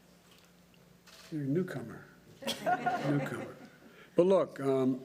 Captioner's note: laughter